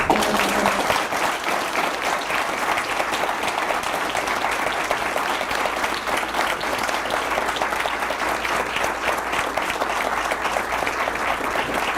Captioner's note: applause